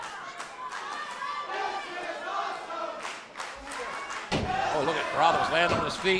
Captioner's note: crowd cheering